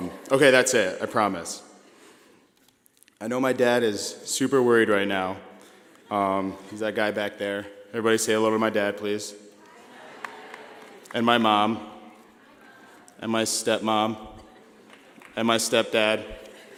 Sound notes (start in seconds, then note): 9.5 crowd greeting